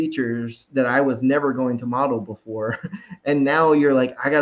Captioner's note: chuckles